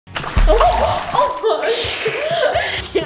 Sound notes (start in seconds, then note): 0.0 water splash